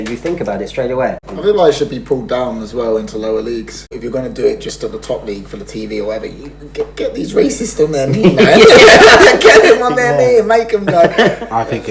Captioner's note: laughs